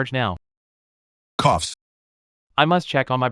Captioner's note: coughs